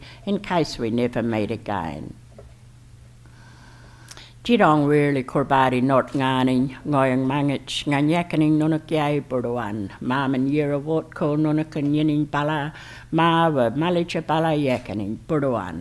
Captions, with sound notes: in case we never meet again. [ Foreign Language Spoken ]